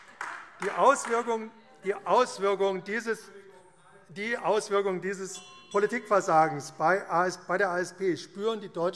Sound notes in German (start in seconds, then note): 3.2 Weitere Zurufe - Glockenzeichen